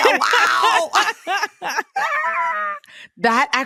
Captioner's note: laughs